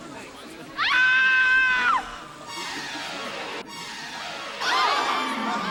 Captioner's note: people laughing and talking; loud screaming; dramatic intense music; people yelling